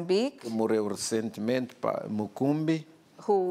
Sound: speaking portuguese

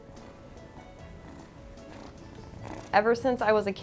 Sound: kitty purring

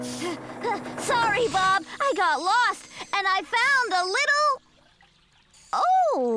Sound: panting

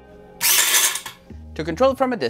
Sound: can shaking

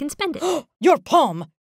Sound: gasps

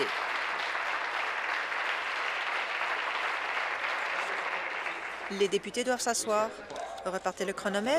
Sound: applause

